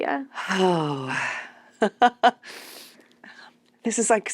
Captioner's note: laughs